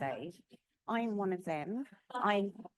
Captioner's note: laughing